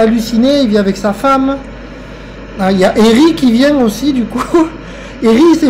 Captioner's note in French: rire